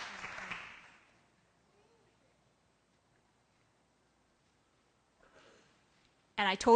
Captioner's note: applause; silence